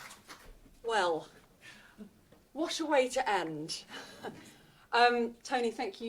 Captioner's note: laughs